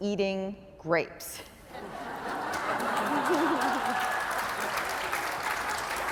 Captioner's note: laughing, applause